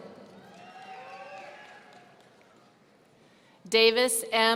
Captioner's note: audience cheering